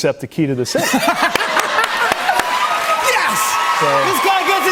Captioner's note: cheers and applause